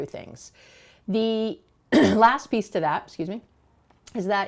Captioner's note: throat clearing